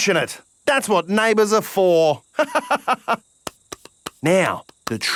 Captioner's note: laughs